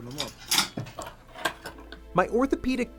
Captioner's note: ambient surgery room sounds